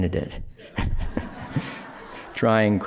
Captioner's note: laughter